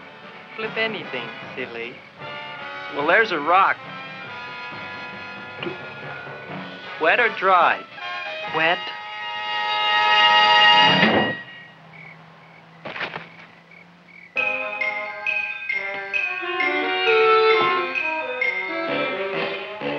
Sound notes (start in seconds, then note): 7.8 dramatic music; 11.1 crickets chirping; 12.8 Leonora thuds; 14.3 anticipatory music